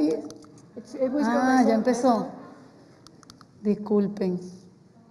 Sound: spanish

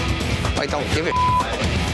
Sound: beep

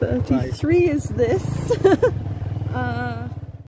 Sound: laughing

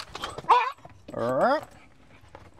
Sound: Barney yelps!

